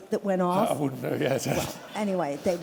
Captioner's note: laughter